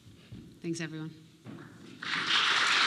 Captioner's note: applause